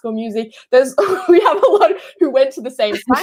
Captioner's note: laughing